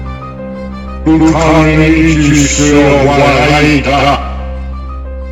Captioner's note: speaking korean